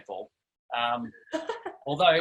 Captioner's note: laughs